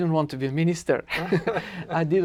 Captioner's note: laughter